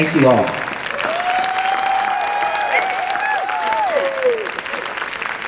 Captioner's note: applause and cheering